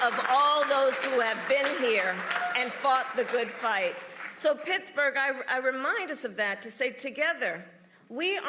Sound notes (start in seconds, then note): 4.5 applause